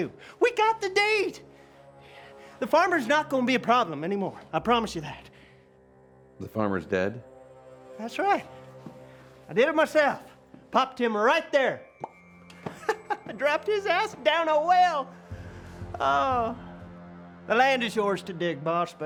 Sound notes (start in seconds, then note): 11.9 pops lips and laughs